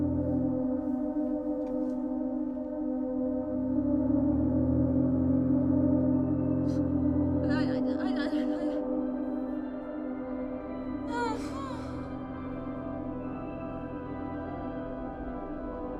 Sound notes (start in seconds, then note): 7.4 woman mumbling; 11.0 woman whining